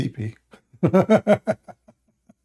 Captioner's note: Ketawa